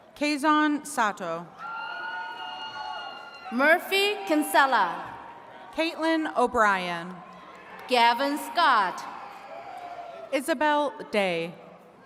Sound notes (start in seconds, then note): 1.6 attendees cheering